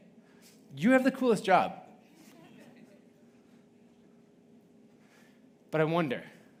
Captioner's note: audience laughing